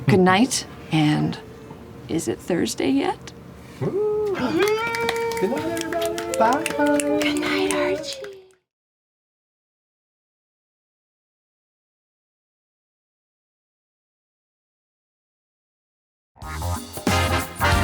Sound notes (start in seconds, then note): 6.8 snapping